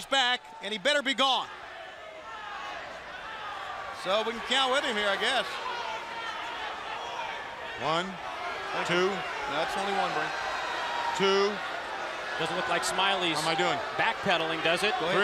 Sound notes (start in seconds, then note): 1.9 crowd cheering; 9.2 crowd chatter